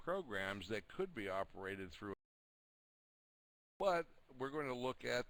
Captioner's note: audio drops